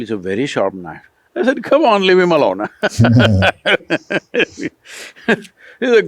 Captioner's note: laughs